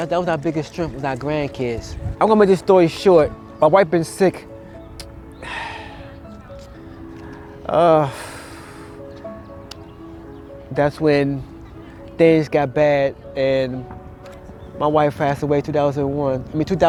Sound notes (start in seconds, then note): 5.3 sighing